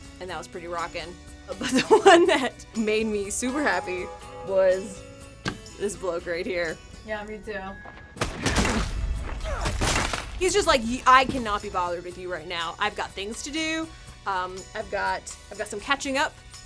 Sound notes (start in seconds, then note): 1.6 laughing; 8.2 Qyburn groaning; 9.6 body thudding